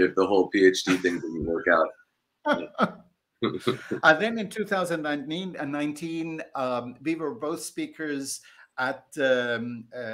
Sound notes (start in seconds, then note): 2.5 laughter